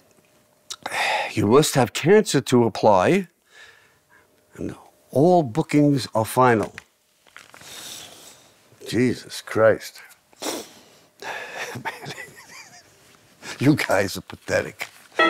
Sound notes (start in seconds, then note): 11.5 laughing; 15.2 alarm goes off